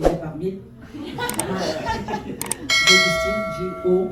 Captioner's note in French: rires